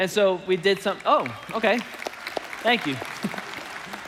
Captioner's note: congregation applauding